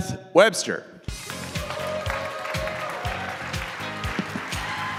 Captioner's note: audience applauding